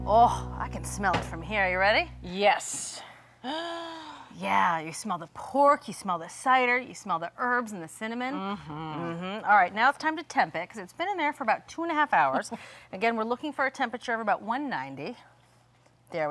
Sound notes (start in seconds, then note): 3.5 gasping